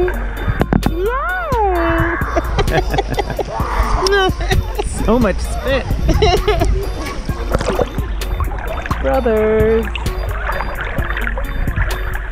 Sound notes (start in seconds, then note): 2.2 laugh